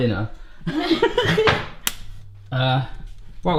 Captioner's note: laughing